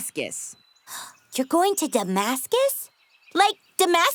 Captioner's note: gasps